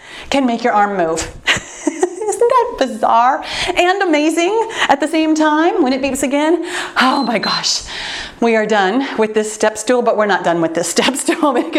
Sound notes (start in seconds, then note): 7.1 timer beeps